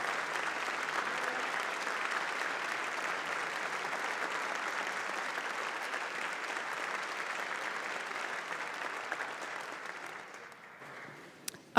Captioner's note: applause